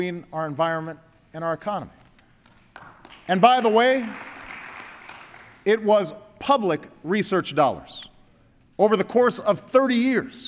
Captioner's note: applause